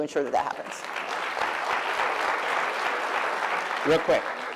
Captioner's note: applause